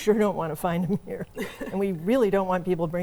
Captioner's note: both laugh